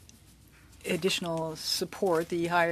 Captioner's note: speaking French